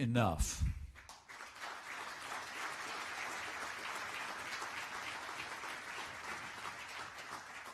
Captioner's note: applause